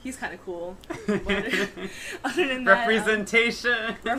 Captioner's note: laughter